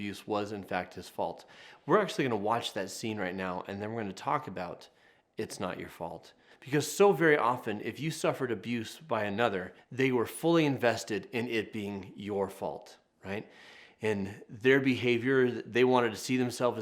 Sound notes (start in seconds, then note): none